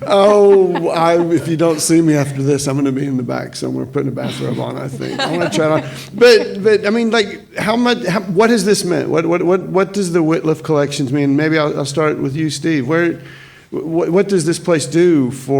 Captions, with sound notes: - Oh, if you don't see me after this, I'm gonna be in the back somewhere putting a bathrobe on, I think. (panelists laughing) I wanna try it on. But I mean, what has this meant? What does the Wittliff Collections mean? Maybe I'll start with you, Steve. What does this place do?